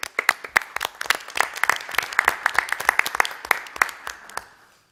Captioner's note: applause